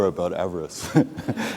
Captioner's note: laughter